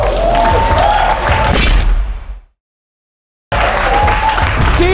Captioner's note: spectators applauding